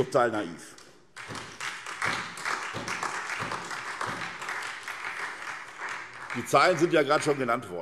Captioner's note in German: Beifall SPD